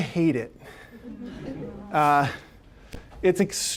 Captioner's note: audience laughing